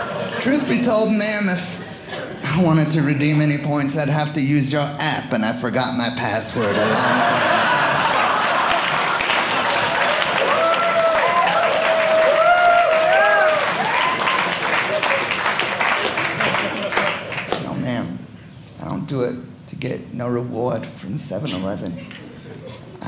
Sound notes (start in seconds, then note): 6.5 audience laughing; 9.6 audience cheering